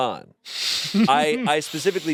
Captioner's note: laughs